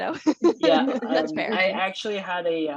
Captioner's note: laughter